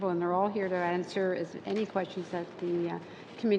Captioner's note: speaking French